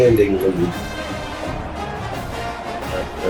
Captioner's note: crowd Noises